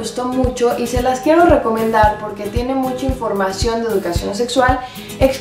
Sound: in Spanish

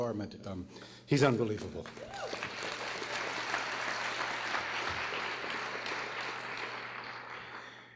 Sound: applause

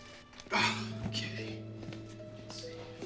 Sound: <i> grunting</i>

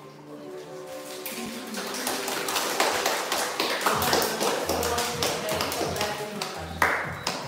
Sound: guests applause

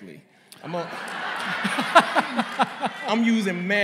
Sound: laughter

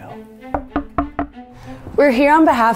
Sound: knocking at door

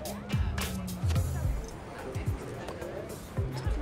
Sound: none

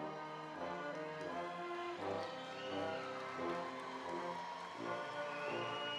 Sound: audience cheering and applauding

